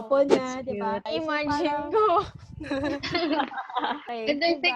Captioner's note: laughter